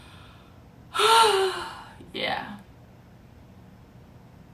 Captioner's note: a loud sigh